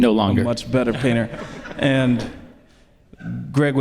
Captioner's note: audience laughs